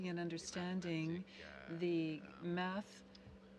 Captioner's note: speaking French